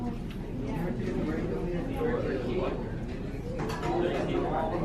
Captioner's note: students chatting indistinctly